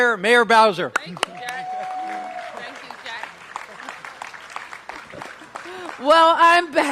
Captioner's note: applause